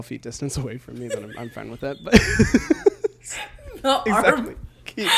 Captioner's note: both laugh